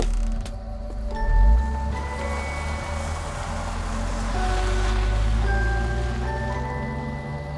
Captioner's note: crickets chirping; engine humming; pensive music continues